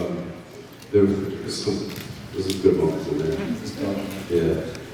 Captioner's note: laughing